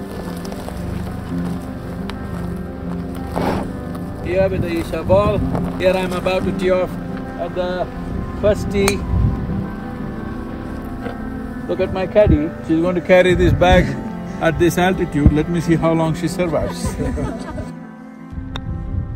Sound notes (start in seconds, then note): 16.4 laughter